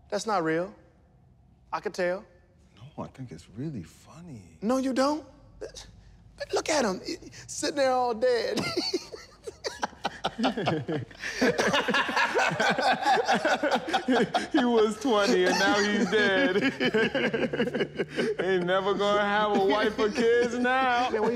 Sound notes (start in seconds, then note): 8.9 laughing